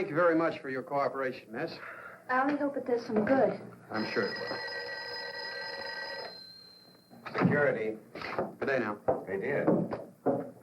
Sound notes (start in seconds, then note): 3.9 phone ringing